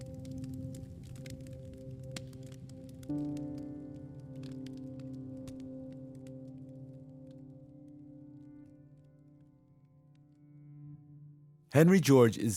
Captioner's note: soundbite of fireplace crackling